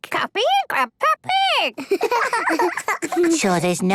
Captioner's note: giggling